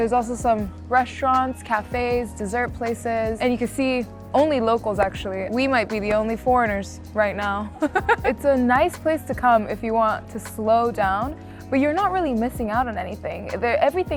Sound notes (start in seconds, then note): 7.8 laughing